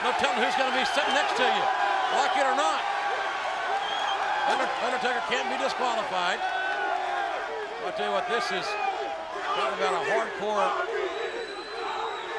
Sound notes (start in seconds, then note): 3.1 crowd cheering